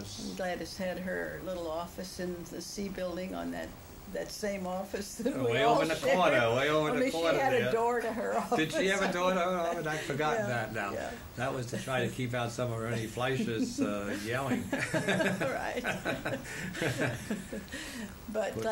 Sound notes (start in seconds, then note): 6.4 laughs; 13.2 laughter